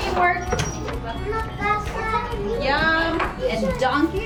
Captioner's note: children chattering